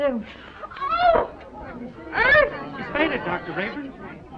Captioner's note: chattering